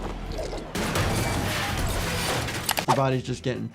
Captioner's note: objects clattering